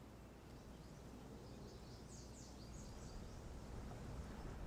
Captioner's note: birds chirping